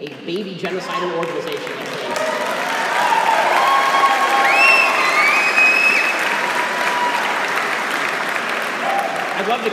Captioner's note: cheers